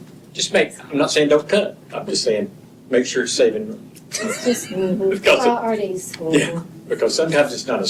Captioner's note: laughter